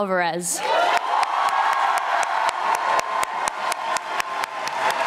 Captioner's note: audience applauding